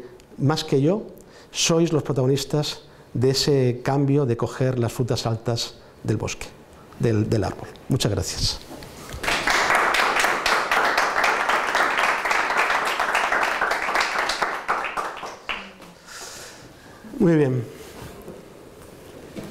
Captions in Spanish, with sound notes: más que yo sois los protagonistas de ese cambio de coger las frutas altas del árbol muchas gracias (aplausos)